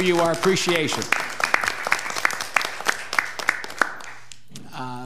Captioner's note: applause